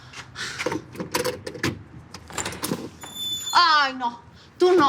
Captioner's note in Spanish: Sonido al abrir la puerta